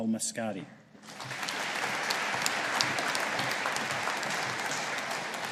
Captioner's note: audience applauding